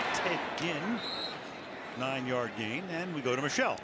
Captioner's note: whistle blowing